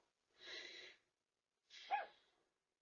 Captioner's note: sighs; Ella continues to bark